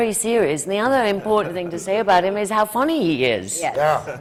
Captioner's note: laughter from the panel